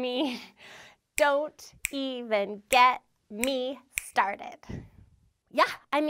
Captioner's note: snaps fingers